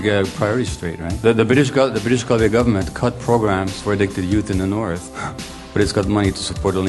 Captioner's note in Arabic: تنهد